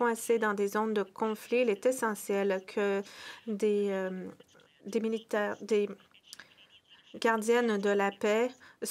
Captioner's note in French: voix de l'interprète